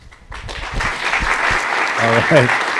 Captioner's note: applause